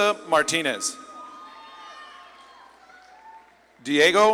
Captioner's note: audience claps and cheers